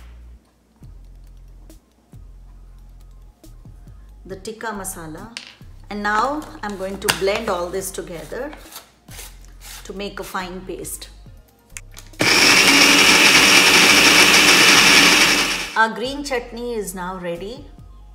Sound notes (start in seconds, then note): 12.2 blender buzzing